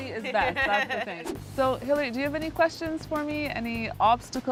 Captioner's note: laughs